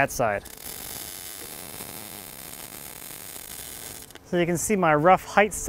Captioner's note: welder buzzing